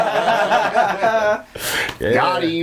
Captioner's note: all laughing